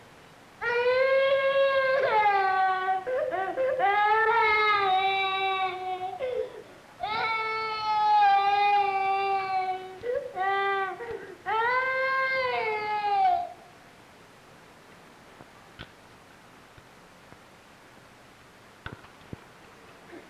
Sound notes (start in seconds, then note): 0.6 crying